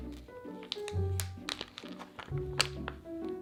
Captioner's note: plastic rustling